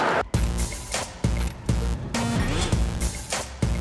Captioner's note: traffic whirring; light clicking